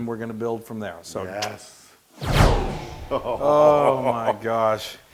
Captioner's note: laugh